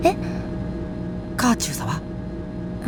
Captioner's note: whisper